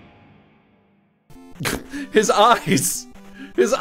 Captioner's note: snorts